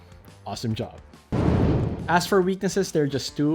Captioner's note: air whooshing